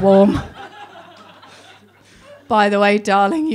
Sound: laughing

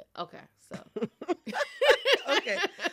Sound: laughter

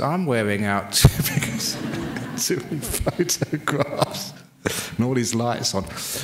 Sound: laughs

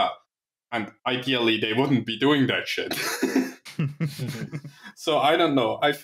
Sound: laughter

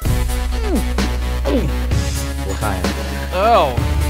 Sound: grunts

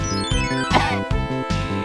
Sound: gag

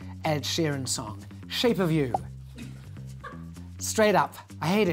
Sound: popping

